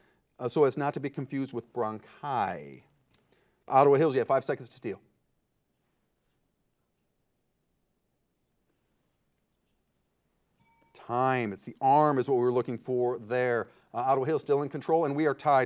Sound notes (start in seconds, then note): 10.6 bell rings